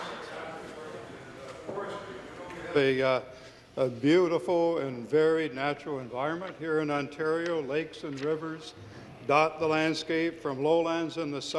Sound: some Applause

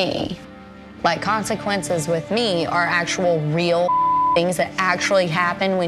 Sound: beep

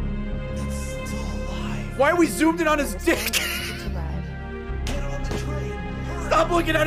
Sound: laughs

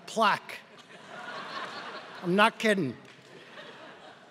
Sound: laugh

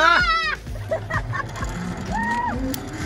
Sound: screaming

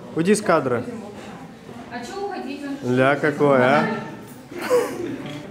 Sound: laughing

